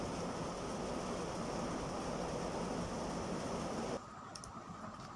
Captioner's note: rains